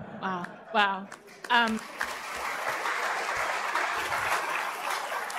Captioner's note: applause